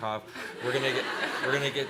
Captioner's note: laughing